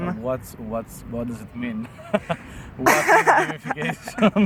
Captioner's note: laughs